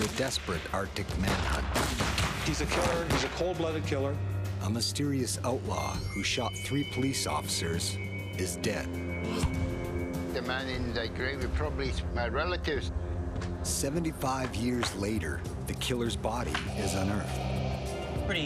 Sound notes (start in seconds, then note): 4.7 voiceover; 14.0 voiceover